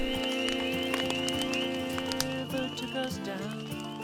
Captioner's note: fire crackling